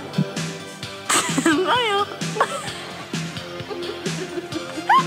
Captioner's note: chuckles